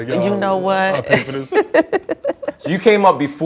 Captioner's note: laughs